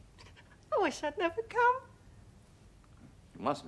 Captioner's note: JACKIE, sobbing